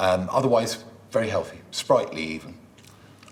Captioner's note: none